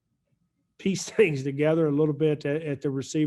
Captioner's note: chuckles